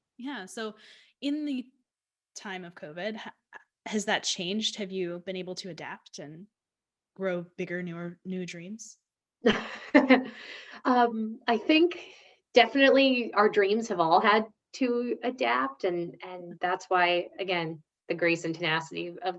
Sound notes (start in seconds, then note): 9.4 laughs